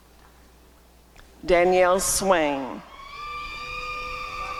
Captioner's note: applause and cheering